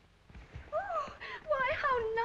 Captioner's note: Celia gasps